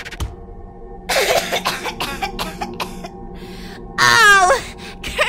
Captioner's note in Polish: Spindrift krztusi się i kaszle z powietrza z Jowisza